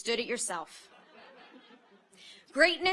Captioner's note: audience laughs